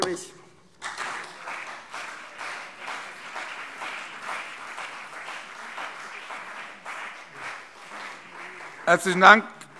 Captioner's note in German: Beifall CDU und BÜNDNIS 90/DIE GRÜNEN